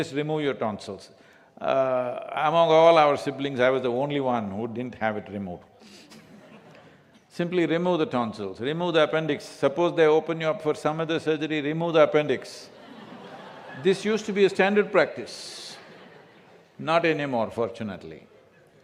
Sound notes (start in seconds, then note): 6.1 few laugh; 12.7 laughter